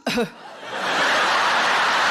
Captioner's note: cough; audience laughing